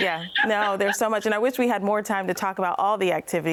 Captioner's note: laughs